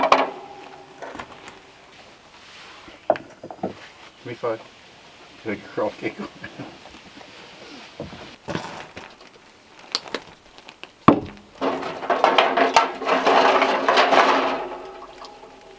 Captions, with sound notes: Give me five. Good girl. (laughs) (clattering)